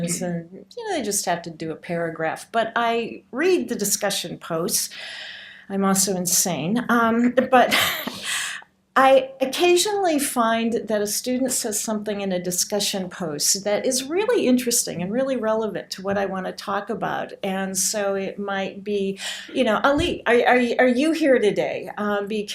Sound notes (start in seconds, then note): 7.9 laughs